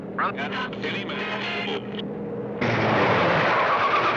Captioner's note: changing radio stations; brakes squealing